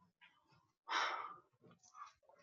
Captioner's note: man sigh